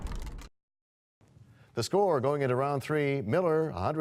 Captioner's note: crashing sound